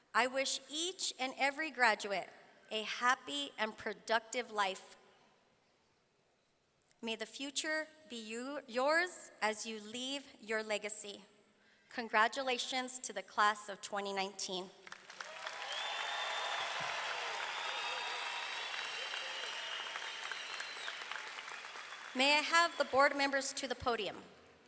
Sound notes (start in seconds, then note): 14.8 audience clapping; 15.1 audience cheering